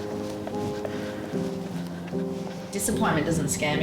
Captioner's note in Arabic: النفخ